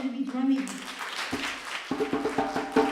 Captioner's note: applause; drumming